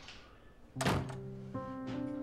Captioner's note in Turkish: Kapı kapanma sesi